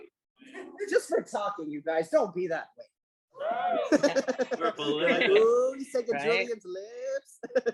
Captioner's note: laughter